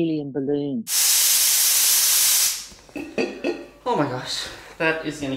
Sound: air whooshing

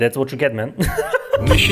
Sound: laughs

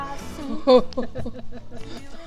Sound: laughter

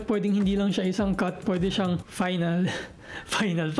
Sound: giggles

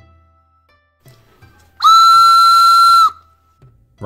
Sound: whistle noise

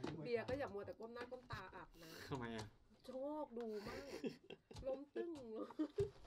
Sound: speaks in a foreign language; laughter

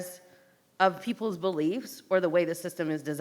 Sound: none

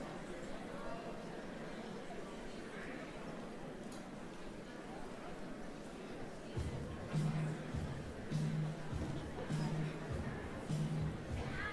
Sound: general chatter

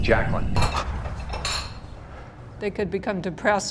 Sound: dishes clattering

